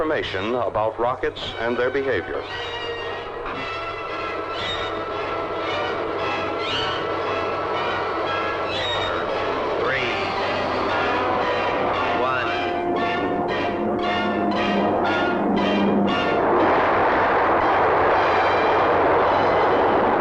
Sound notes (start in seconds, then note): 2.7 smoke hissing; 12.5 rocket rumbling; 14.7 intense orchestral music